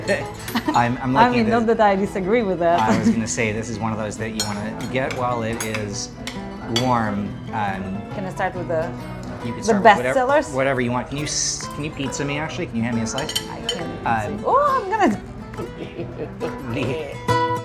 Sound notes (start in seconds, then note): 2.7 laughing; 15.4 laughing